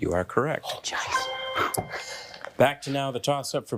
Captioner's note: bell dinging